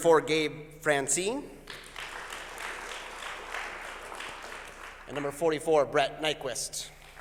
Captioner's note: applause; applause